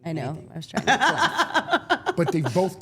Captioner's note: Steph laughing